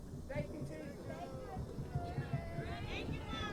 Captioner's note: crowd chatter